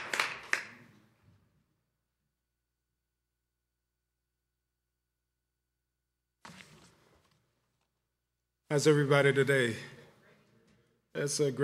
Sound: applause

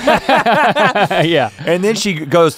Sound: laughing together

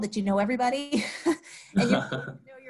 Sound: laughing

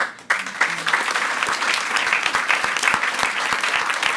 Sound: audience applauds

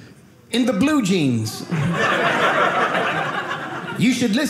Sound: audience laughing

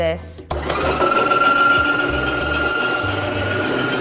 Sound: whirring

